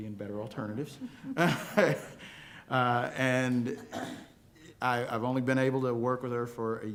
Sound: laughter

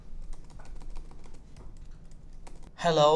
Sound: typing

